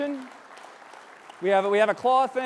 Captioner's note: audience applauding